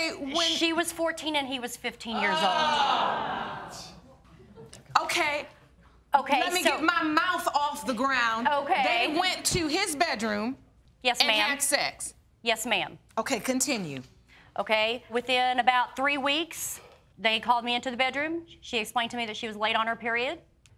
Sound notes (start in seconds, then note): 2.1 audience exclaims